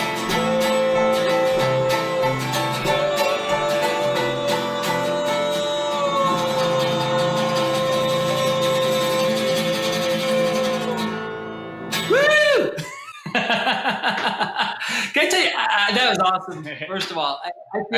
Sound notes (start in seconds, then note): 12.6 laughs